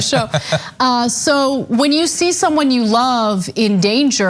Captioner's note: laugh